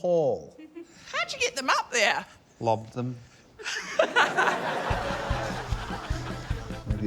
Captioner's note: laughs